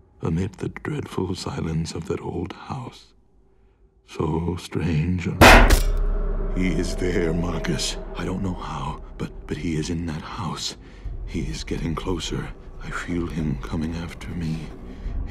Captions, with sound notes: amidst the dreadful silence of that old house. So strange and. (metal clanking) He is there Marcus. I don't know how, but, but he is in that house. He's getting closer. I feel him coming after me.